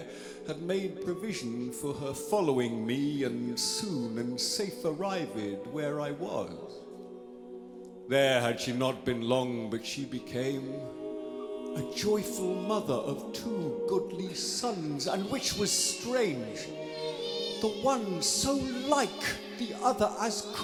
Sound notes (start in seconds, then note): 16.5 babies cry